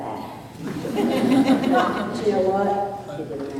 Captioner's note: laughter